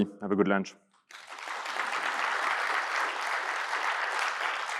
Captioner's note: audience applauding